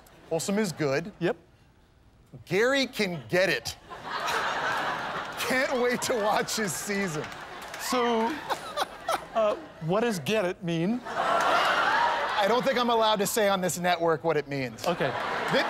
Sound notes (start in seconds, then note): 3.8 laughter; 11.0 laughter